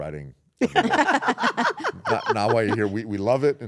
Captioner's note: laugh